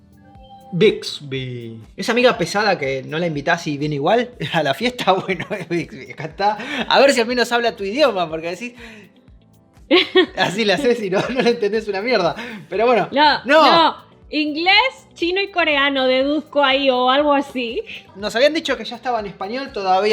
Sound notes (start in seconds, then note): 9.0 Spanish